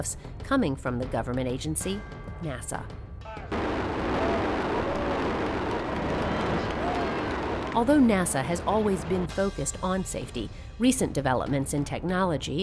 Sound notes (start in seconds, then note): 3.5 explosion; 5.4 cheers and applause